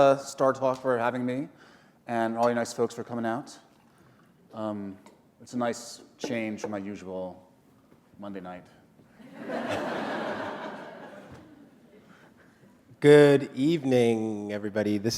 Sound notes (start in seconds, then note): 9.2 laughter